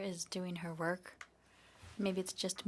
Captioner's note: speaking in French